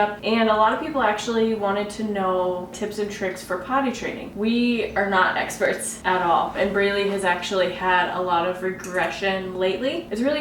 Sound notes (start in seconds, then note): none